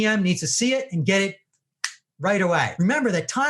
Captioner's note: snaps fingers